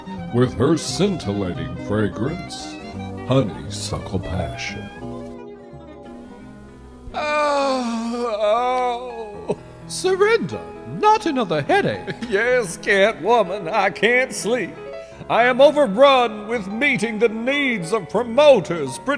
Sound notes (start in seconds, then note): 7.5 wailing